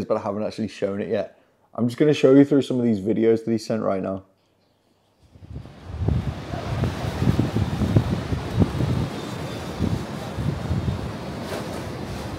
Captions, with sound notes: but I haven't actually shown it yet. I'm just gonna show you through some of these videos that he sent right now. (surf rushing)